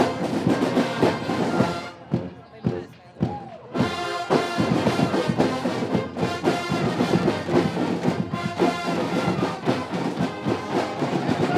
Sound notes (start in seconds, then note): none